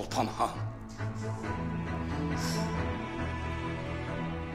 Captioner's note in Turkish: Derin nefes verir